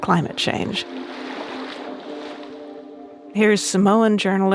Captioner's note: soft ambient music continues; water lapping continues